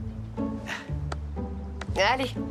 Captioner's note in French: soupirs